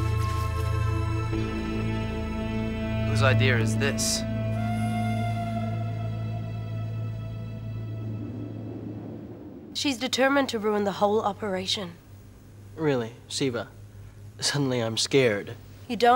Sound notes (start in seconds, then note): 1.8 tense music; 8.3 wind blowing